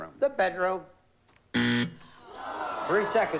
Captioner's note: buzzer